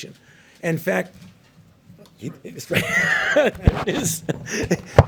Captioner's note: laughs